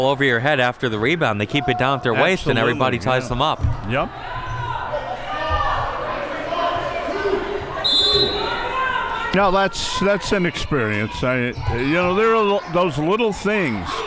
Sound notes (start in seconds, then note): 7.8 whistle blows